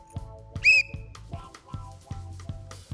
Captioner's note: blows whistle; reggae music continues